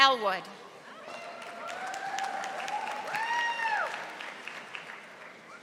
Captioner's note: audience applauding